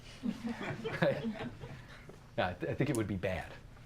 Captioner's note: audience chuckles